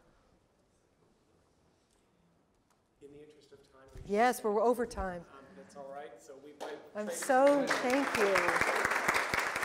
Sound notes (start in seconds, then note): 7.0 applause